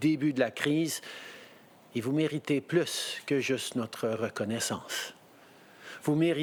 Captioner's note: speaking French